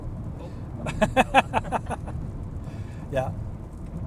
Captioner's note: laughs